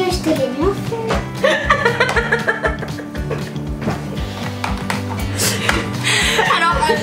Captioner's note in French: rires